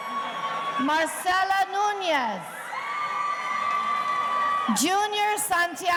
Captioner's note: audience cheering